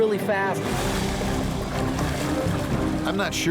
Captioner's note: dramatic music continues; water splashing